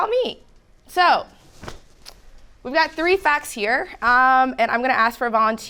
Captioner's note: hands thudding